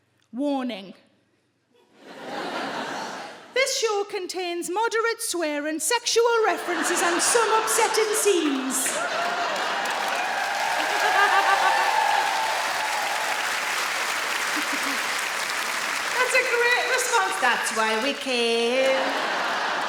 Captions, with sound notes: "Warning... [AUDIENCE LAUGHS] ...this show contains moderate swearing sexual references and some upsetting scenes". [AUDIENCE CHEERS] - [SARAH CHUCKLES] That's a great response. "That's why we came".